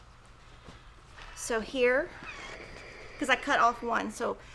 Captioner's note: iron squeaks